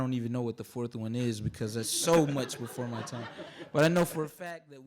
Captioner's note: audience laughing